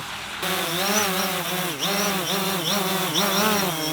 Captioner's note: whirring